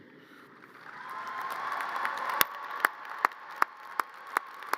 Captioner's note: audience cheers and applause